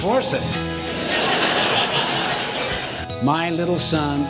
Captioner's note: audience laughs